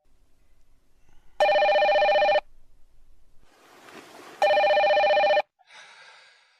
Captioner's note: phone ringing